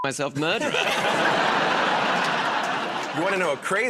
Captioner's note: laughter